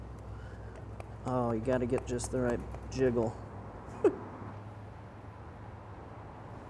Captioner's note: laughs